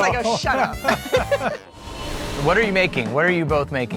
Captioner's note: participants laughing; upbeat jazz music